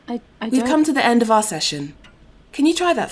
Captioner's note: ticking normalises